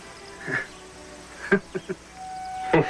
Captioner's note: chuckle